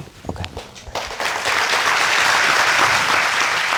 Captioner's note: audience clapping